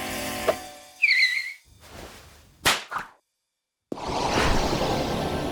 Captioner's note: suspicious music; rubber skidding; machine whirring